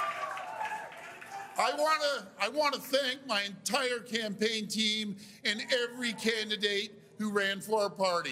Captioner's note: cheers and Applause